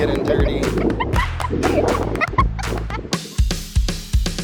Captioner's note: laughing; upbeat background music